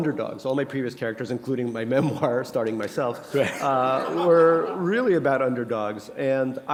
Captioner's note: chuckle